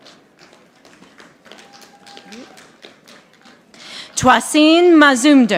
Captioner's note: audience applauding